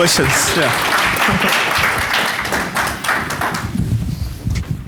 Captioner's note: audience applauds